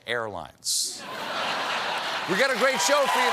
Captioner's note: laughter